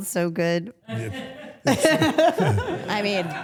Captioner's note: everyone laughs